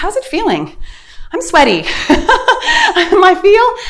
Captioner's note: laughing